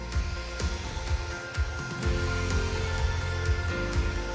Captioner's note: tool humming